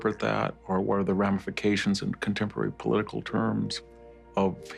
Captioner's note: none